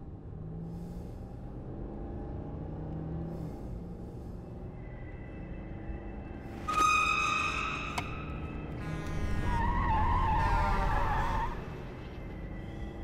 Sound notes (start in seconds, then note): 6.6 high-pitched squeal; 8.9 tires screech